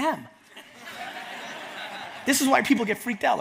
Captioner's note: audience laughs